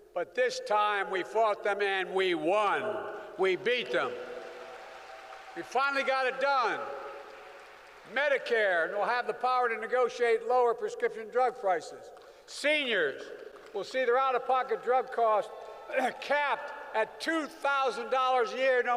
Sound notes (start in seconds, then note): 3.1 applause